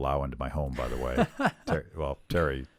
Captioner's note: laughs